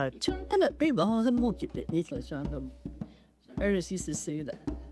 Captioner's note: navajo language